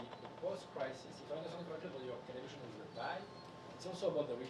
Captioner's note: speaking faintly